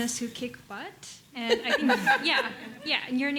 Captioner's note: laughter